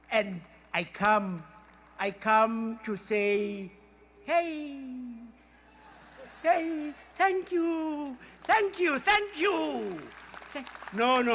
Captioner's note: applause